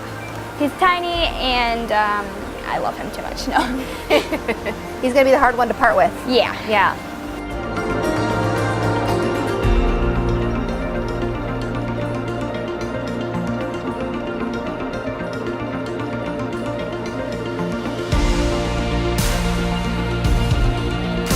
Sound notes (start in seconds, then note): 3.4 laughing; 8.1 gentle music